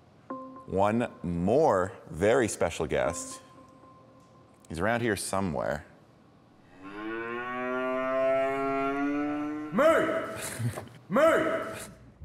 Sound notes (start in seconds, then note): 6.8 cow mooing